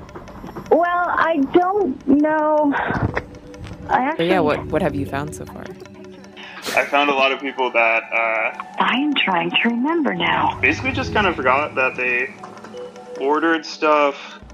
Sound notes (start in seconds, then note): 2.8 sighs; 6.4 laughs